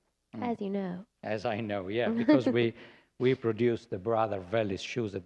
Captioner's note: laughter